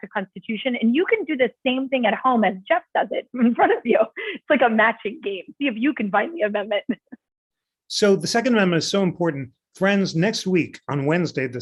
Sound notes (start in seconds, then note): 3.3 laughter; 6.8 laughter